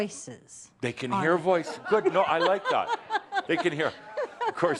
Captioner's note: she laughs